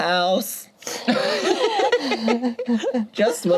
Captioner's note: group laughs